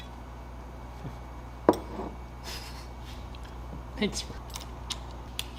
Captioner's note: laughter